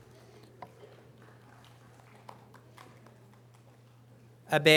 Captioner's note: audience applause